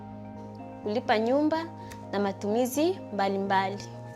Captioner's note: speaks in Swahili